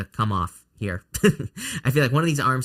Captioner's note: laughs